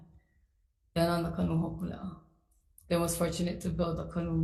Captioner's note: speaks foreign language